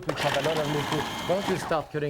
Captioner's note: blender whirring